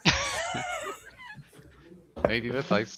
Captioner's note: laughs